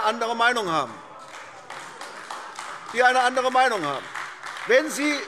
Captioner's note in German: Beifall AfD - Lachen CDU und BÜNDNIS 90/DIE GRÜNEN